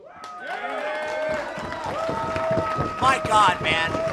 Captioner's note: applause